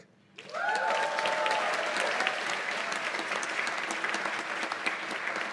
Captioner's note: cheers and applause